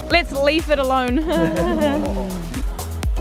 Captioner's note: all giggle